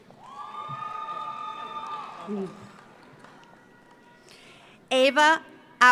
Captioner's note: audience cheers; audience applauds